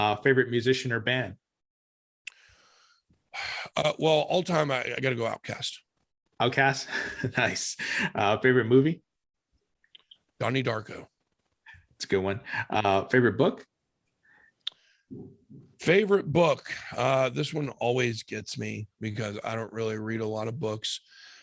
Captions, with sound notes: - Favorite musician or band? - (sighs) Well, all time I got to go OutKast. - (laughs) OutKast? Nice. Favorite movie? - "Donnie Darko." - That's a good one, favorite book? - Favorite book, this one always gets me, because I don't really read a lot of books.